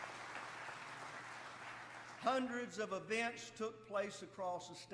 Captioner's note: applause